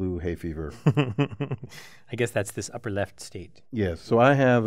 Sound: laugh

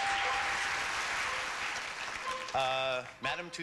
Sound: audience applauding

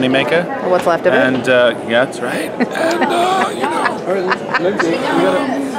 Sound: rasps

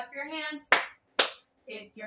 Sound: clap

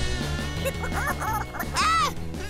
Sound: laughing

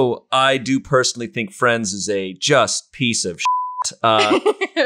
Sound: beep

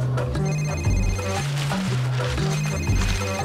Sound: phone rings

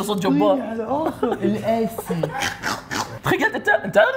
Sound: mocks accent

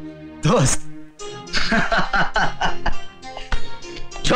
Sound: laughing

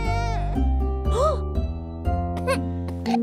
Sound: slight baby cry; mom gasps; baby coughs

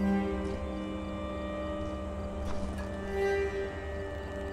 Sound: music, wind, and cricket sounds; footstep and wind noises; music, wind, and cricket sounds

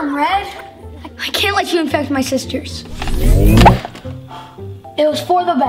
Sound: shoots gun

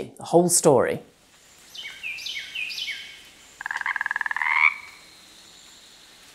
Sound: frog croaking; birds chirping; bird chirping; water rushing

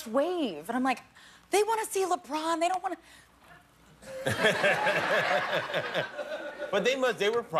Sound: laughter

